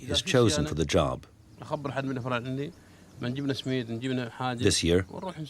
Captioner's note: Arabic spoken audio